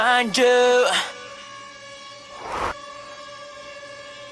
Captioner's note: drone whirring